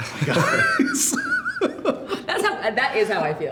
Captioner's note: laughing